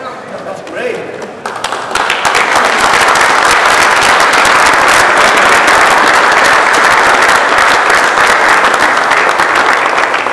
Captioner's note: applause